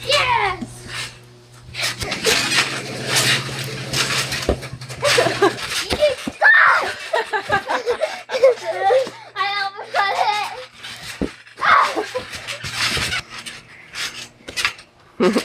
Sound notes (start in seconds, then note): 1.6 everyone jumping; 5.0 everyone laughing; 11.5 everyone jumping